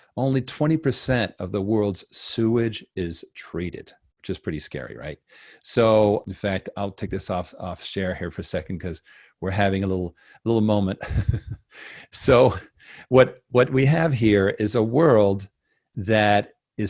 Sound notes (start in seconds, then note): 11.0 laughs